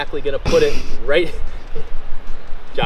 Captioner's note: cameraman snickers